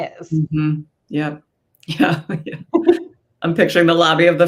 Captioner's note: laughs